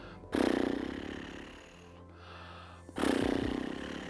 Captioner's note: pfffft